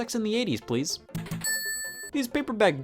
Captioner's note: bell rings